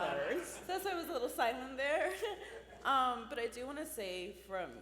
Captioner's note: laughs